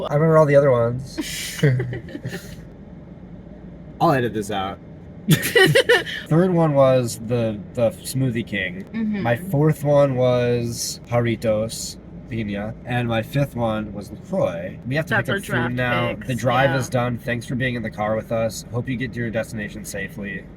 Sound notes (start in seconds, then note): 1.2 laughter; 5.3 laughter